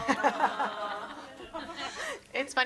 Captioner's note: everyone chuckles